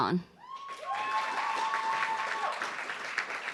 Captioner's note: cheers